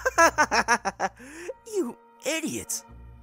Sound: laughs

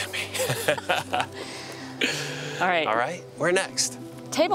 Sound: both laughing

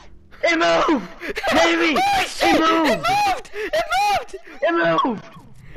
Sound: laughter of joy

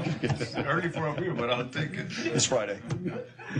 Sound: laughter

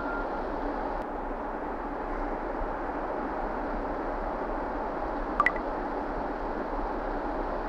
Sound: Whatsapp messages rings

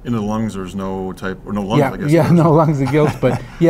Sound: laughs

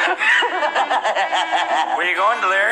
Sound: evil Laughing

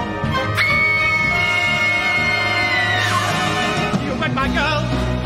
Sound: screams

